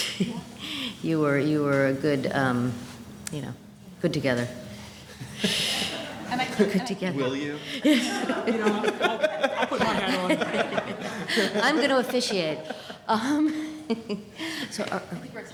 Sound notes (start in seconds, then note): 0.0 laughter; 4.6 laughter; 8.1 laughter; 11.3 laughter; 14.6 laughing